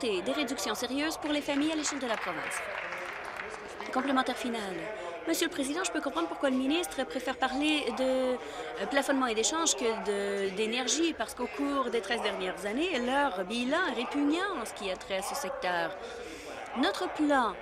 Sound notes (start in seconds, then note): 5.2 applause